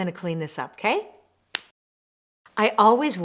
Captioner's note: snaps fingers